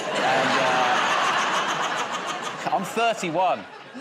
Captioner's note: laughter